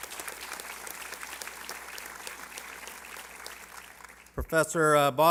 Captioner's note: applause